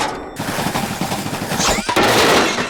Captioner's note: loud clatter